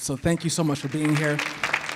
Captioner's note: audience clapping